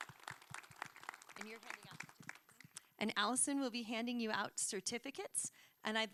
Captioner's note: applause